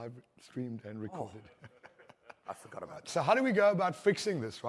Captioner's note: laughter